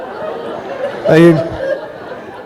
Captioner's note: laughter